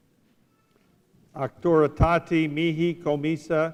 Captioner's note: speaking latin